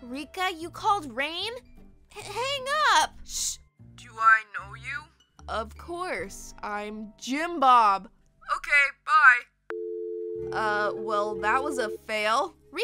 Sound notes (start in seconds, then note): 9.7 hangs up